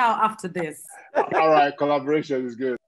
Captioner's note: all laughing